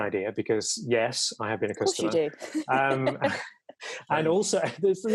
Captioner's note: laughs